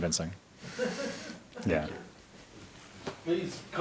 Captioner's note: audience laughs